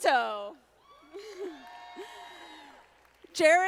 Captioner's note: audience applauding